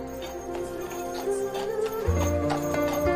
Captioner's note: horse hooves